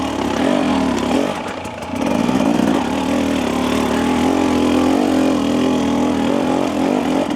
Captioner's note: bike engine